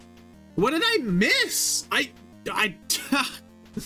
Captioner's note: stuttering